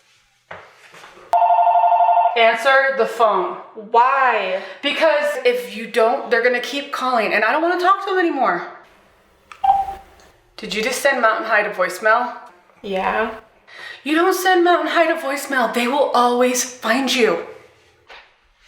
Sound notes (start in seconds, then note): 1.3 phone rings